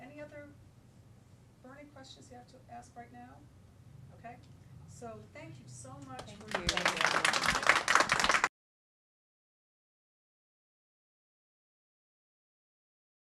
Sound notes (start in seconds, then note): 6.1 applause